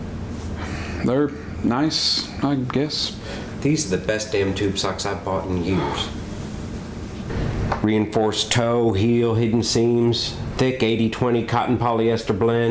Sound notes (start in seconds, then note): 6.3 Ned sighs